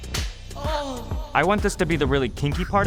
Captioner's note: paddle spanks